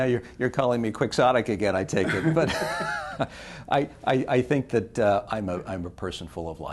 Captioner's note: laughter